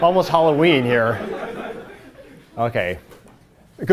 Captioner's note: laughter